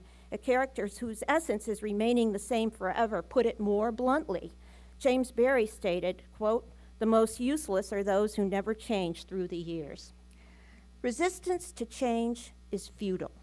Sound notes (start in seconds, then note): none